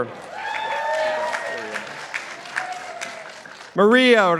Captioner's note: participants applauding